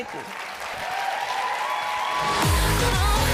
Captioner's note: applause